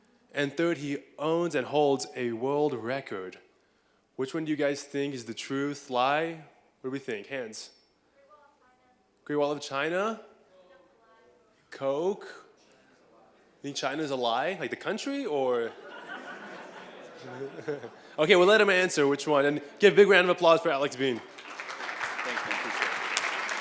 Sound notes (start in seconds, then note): 15.6 laughter; 20.9 applause